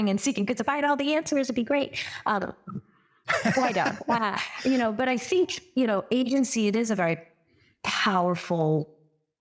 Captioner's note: laugh